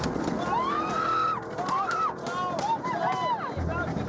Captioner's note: screaming